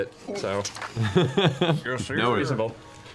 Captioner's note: laughs